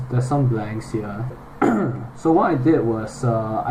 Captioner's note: manly cough